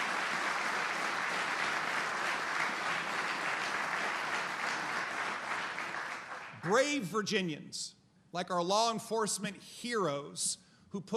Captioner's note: applause